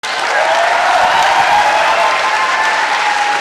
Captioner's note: applause